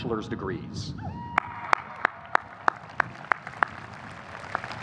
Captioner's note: audience applauding